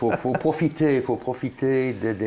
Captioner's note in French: Rire